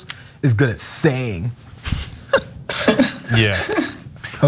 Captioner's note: laugh